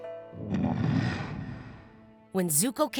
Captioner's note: Appa grunting